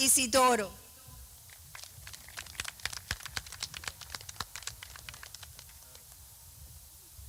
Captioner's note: clapping